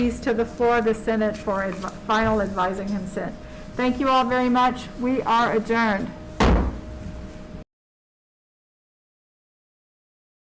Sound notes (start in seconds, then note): 6.4 gavel thuds